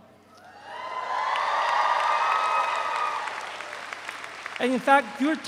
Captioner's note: audience cheers; audience applauds